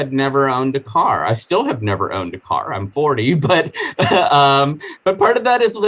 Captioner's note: chuckling